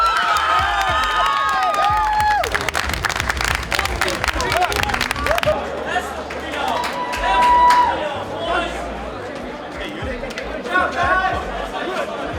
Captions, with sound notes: [cheering] [yelling] Watch out, guys.